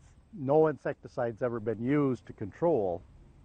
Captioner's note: voiceover